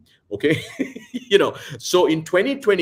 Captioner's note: laughs